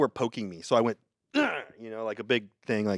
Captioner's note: grunts